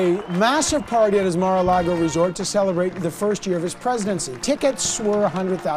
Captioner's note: cheering